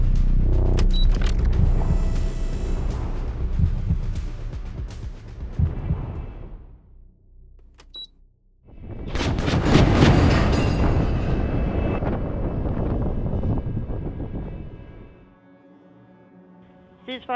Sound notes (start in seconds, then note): 0.9 machines beep; 1.8 gun whirs; 4.1 intense music continues; 7.8 button beeps; 9.1 cannon booms; 14.9 gentle music continues; 17.2 radio Voice